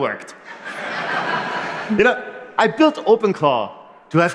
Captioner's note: laughter